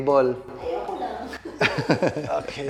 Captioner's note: laughs